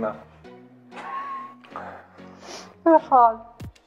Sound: laughs

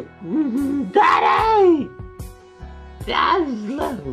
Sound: none

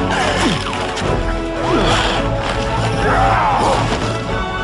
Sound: snarling; yells

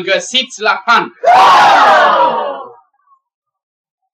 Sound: sound - they all exclaim horrified in unison

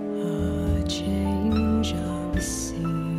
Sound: none

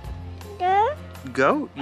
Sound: baby babble

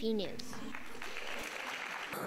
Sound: audience applauding

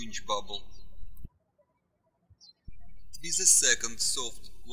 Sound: birds chirping

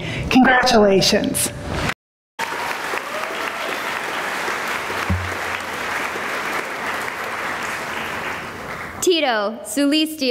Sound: applause

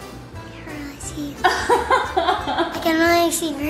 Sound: laughing

